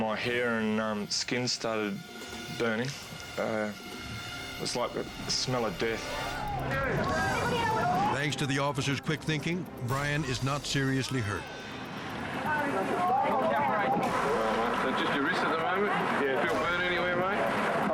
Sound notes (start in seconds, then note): 6.1 people shouting